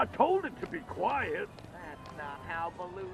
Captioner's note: footsteps fading